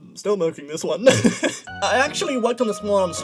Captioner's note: laughs